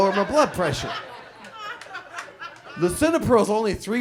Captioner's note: audience laughs